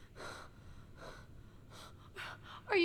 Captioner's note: Catherine panting